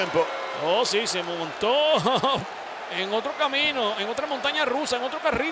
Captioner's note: laugh